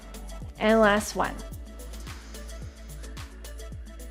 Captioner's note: inhales